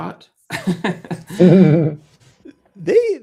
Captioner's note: laughter